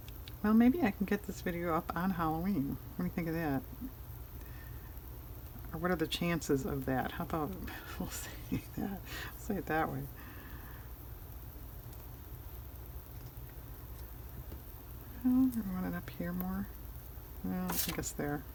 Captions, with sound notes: well maybe i can get this video up on Halloween, what do you think of that? or what are the chances of that? how about we'll (laughs) say it that way do i want it up here more? well, i guess there